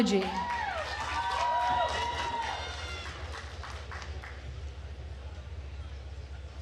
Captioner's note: attendees cheering and applauding